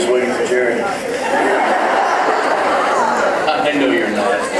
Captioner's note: laughing; laughs